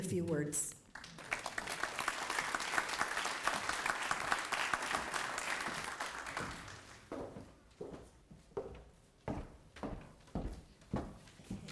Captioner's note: applause